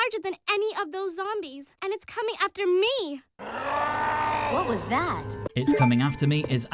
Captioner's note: scream